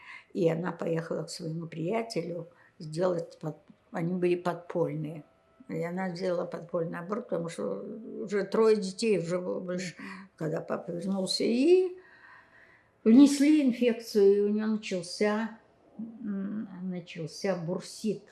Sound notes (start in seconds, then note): none